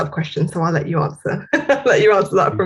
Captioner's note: laughs